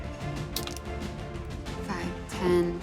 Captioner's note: dice rolling